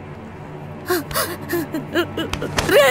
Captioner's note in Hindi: रोना